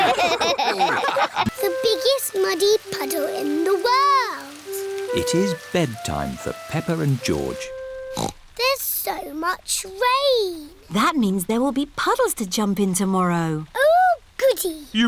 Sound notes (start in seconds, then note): 0.0 all laughing; 8.1 snorts